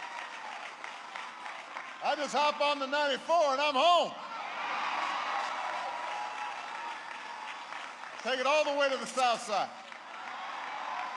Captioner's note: applause